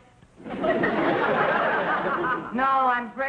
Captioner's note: audience laughing